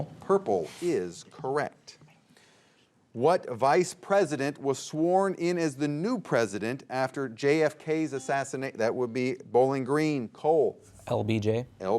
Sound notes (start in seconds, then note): 8.5 buzzer beeps